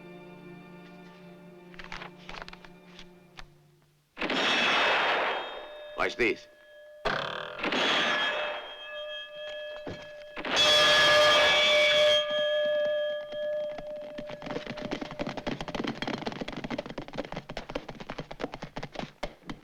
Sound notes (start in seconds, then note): 3.8 gunshots hitting bell; 10.3 gunshot hits bell